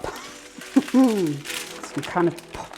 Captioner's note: laughs